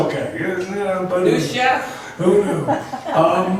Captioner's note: voiceover